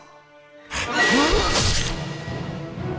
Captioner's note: scream